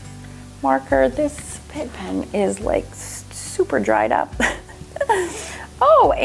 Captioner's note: laughs